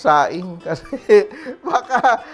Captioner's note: giggles